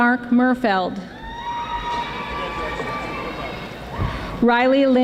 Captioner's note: audience applauding